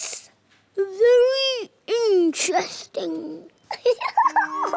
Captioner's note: giggles